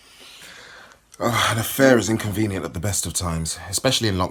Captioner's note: sighs